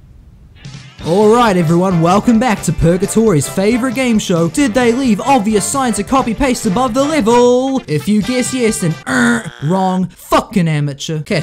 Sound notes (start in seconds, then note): 8.9 incorrect buzzer